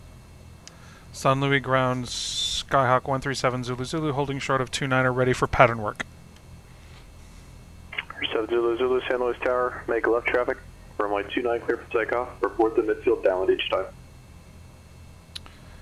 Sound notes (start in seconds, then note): 0.5 me on radio